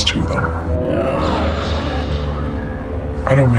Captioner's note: growling